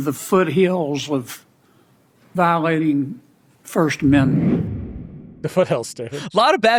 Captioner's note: transition whooshes